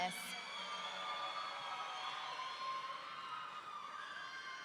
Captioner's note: audience cheering